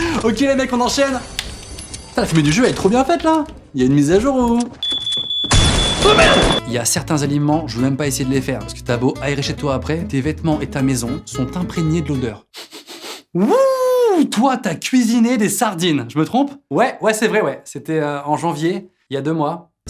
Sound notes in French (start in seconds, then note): 4.8 Son du détecteur de fumée